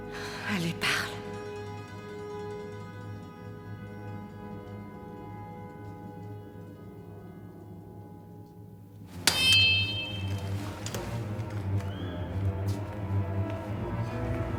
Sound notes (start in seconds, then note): 9.1 sword clangs; 10.8 suspenseful music